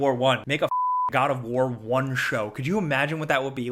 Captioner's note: beep